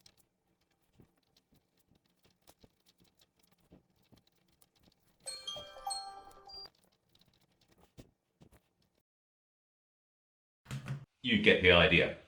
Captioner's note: sound of writing